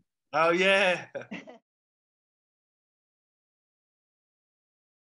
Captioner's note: both laughing